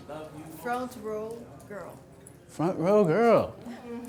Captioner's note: voiceover